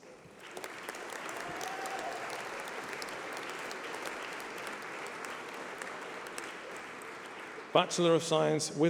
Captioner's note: applause